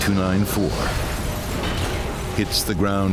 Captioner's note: crashing